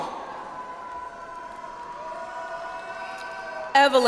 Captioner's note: audience applauds